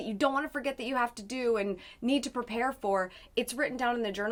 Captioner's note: none